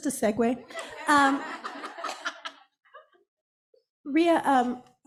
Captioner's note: all laughing